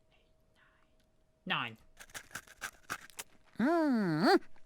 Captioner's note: eating sound